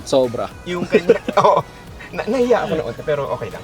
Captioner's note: both laugh